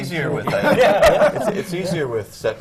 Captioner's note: laughter